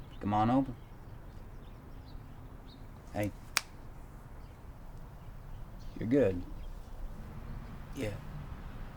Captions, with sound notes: Come on over. Hey! (fingers snaps) You're good? - Yeah.